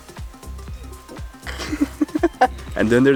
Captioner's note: laughs